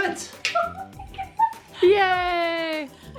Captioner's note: laughs